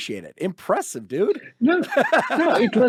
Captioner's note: laughs